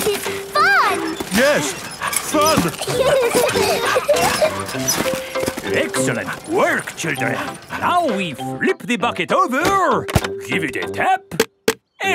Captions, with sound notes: This is fun! (STRAINING) Yes! Fun! (PEPPA AND GEORGE LAUGHING) Excellent work, children! Now we flip the bucket over, give it a tap,